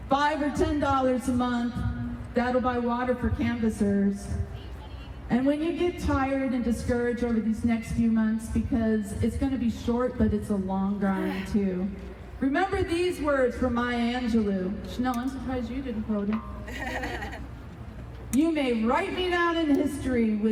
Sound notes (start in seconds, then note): 16.7 crowd members laughing